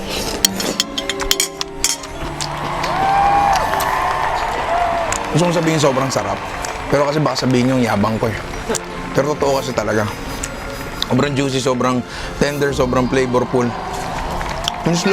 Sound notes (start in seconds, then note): 1.9 applause